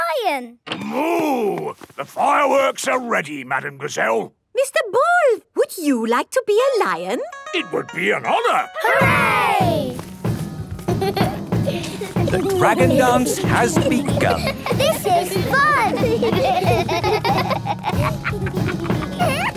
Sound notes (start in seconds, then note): 8.8 drumming; 8.8 laughter; 15.8 laughter